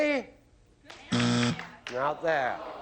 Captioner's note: buzz